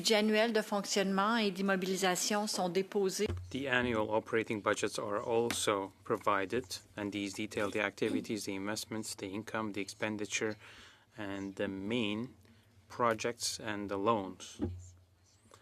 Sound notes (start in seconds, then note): 5.2 speaking French